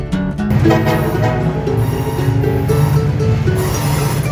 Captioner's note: train horn blows